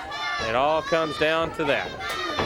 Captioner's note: crowd chatter